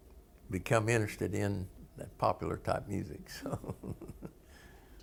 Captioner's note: laughter